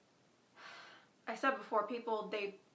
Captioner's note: sighs